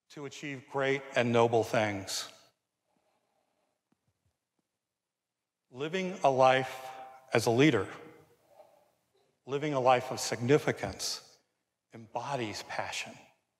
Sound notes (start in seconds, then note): none